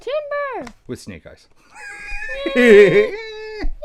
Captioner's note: laughs